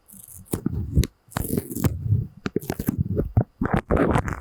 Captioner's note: sticky sounds